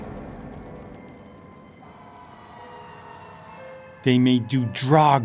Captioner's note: sirens blaring